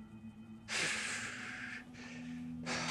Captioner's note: Mitch sighs